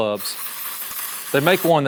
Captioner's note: spraying